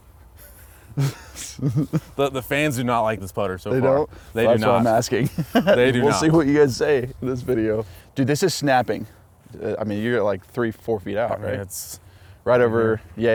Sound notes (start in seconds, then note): 0.9 laughs